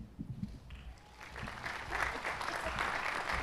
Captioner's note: applause